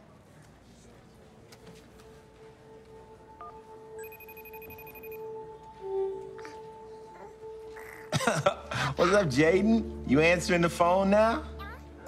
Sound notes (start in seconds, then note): 3.9 phone beeps, rings; 6.8 baby coos; 7.7 laughs